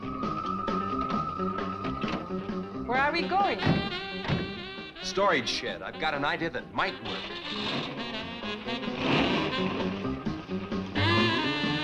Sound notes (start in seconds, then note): 0.3 suspenseful music; 7.6 engine revving